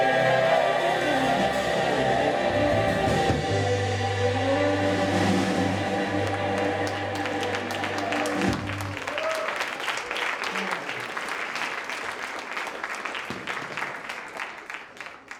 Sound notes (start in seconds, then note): 6.1 audience applauds; 6.6 audience whoops